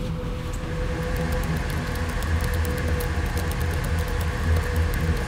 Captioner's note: keyboard clicking